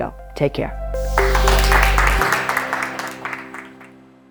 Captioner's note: clapping